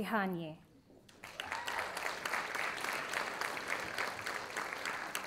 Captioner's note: audience applauding